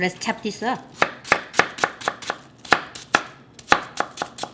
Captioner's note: rapid chopping